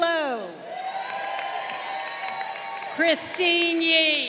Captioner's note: crowd cheering